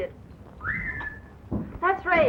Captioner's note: whistle